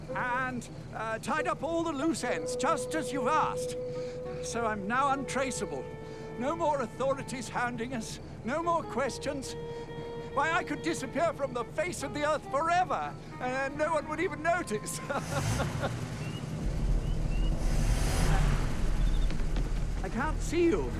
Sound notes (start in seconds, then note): 14.9 nervous chuckling; 17.6 revving engine